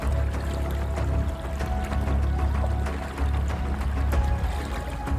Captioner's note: stream burbling; edgy music continues